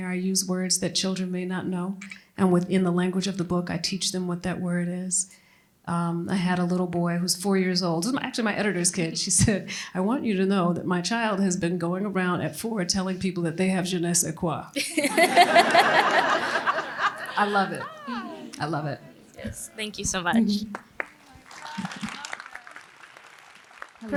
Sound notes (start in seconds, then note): 14.8 laughter; 20.6 applause